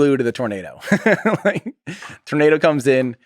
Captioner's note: Tim laughs